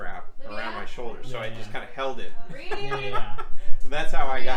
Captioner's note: laughter